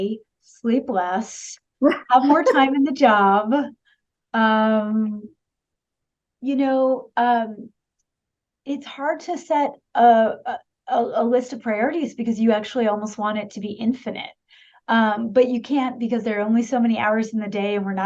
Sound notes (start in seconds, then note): 2.2 laughter